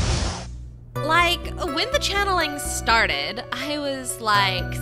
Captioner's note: none